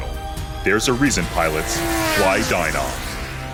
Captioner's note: airplane engine roars